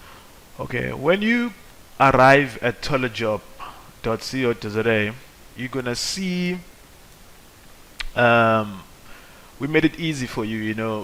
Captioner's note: uhmm